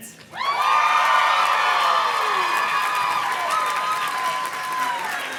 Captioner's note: audience cheers and claps